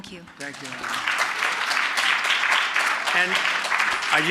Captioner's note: applause